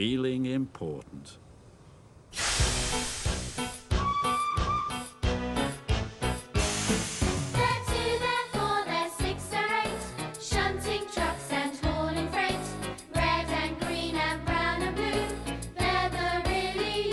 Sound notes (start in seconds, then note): 2.3 steam hisses; 3.4 upbeat theme music